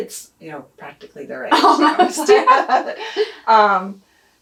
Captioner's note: laughs